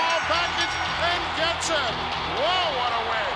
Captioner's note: bell rings